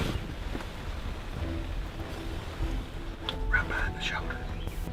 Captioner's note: arrow hissing